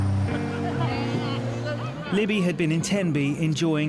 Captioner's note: group chattering and laughing